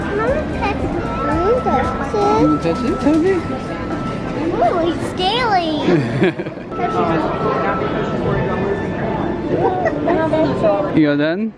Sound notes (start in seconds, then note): 5.8 laughing